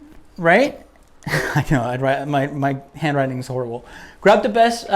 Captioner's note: laughs